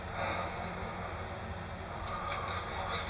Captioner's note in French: soupire